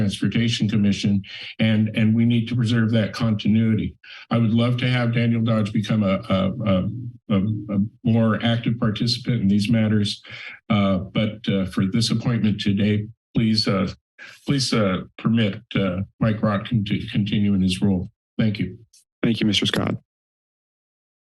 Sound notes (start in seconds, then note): 12.6 laughs